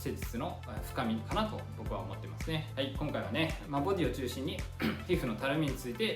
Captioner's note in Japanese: 咳払い